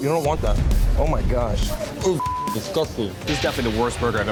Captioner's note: beep